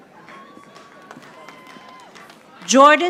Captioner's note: audience applauding